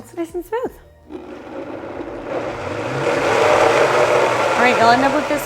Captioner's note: blender whirring